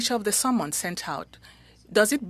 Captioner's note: speaking French